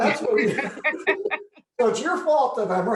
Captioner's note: laughter